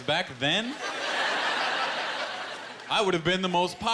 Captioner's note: laughter